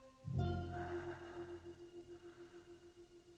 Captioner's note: sighs